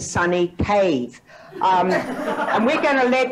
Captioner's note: audience laughs